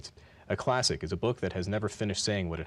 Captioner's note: none